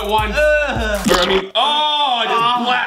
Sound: disgusted sound; shouts

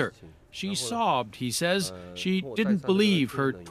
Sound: speaking Foreign Language

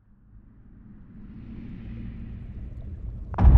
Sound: wind blowing; echoing knock

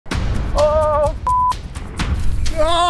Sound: dramatic music; beep

